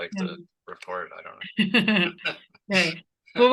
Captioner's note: both laughing